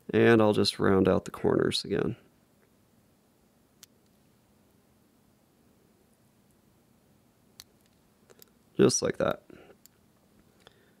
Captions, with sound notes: and I'll just round out the corners again. (Scissors snipping) Just like that.